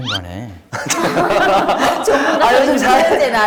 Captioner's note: all laughing